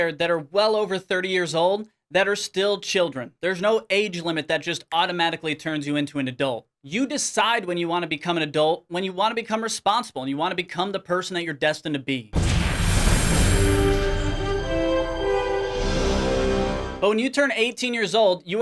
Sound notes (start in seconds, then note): 12.4 orchestral music; 12.7 hydraulic hissing